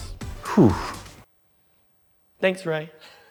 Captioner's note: silence